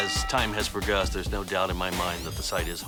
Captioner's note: bell ringing